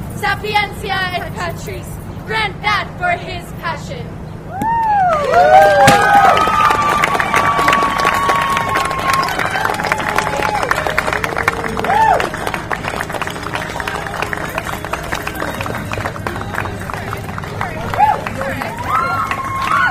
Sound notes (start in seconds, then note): 4.5 audience cheers and applause